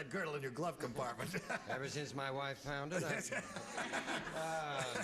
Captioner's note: regular voice